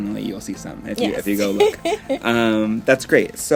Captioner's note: laughs